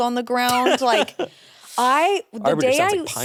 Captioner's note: laughs